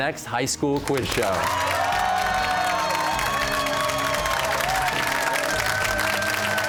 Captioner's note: cheers and applause